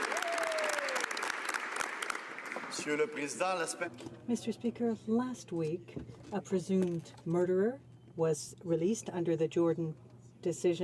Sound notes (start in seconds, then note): 2.6 some Applause